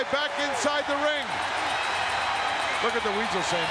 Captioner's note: audience cheering